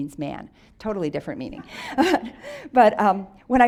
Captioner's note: audience laughs